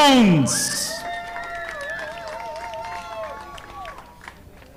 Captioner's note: audience applauding